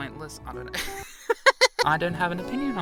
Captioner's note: laughs